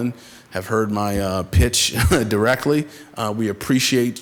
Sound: chuckles

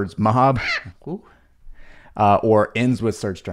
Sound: loud bird chirp

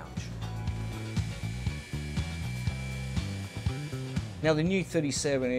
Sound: motor whirring

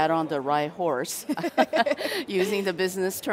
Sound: both laugh

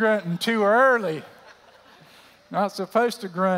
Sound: laughter

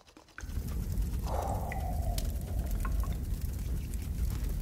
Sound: fire crackling

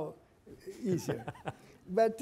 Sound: group laughing

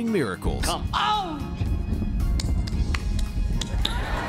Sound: hands clapping; laughter

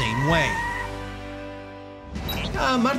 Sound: tires screeching

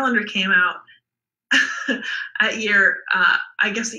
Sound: laughs

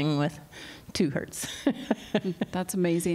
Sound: laughter

